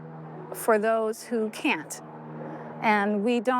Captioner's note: plane whirring overhead